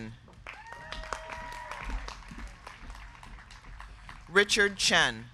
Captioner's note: crowd clapping; crowd cheering